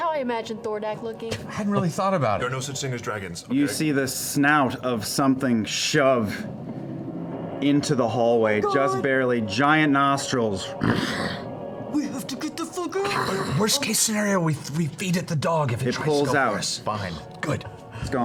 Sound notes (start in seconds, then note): 10.8 snorts